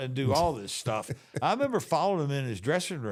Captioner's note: Mark laughs